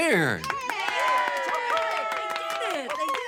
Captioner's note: people cheering